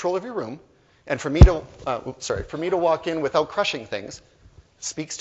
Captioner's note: hits microphone